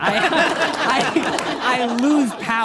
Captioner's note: audience laughing